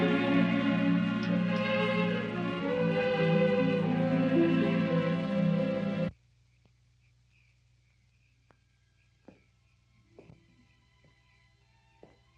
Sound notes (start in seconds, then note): 6.7 insects chirping; 9.0 soft orchestral music